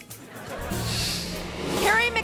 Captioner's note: audience laughing